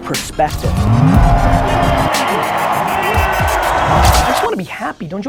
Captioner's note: crowd roars